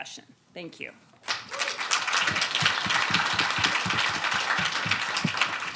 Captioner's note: students applauding